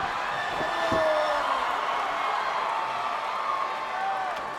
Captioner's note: crowd cheers